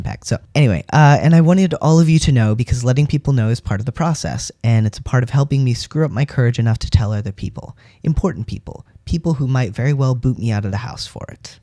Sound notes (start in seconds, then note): none